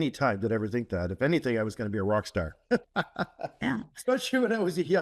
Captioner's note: laugh